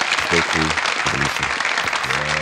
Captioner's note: MORE applaud; crowd cheers and applauds